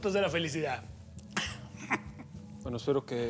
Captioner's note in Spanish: risas